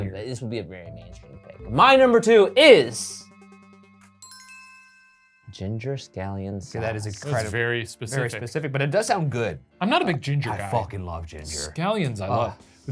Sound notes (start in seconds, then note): 2.8 suspenseful music; 4.1 list chimes